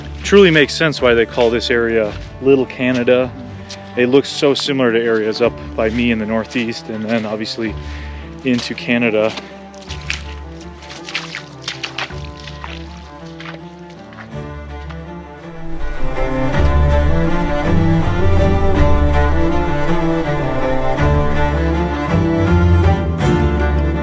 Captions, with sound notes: Truly makes sense why they call this area, little Canada. It looks so similar to areas up by Maine in the northeast and then obviously into Canada. (water splashing) (dramatic instrumental music) (dramatic instrumental music continues)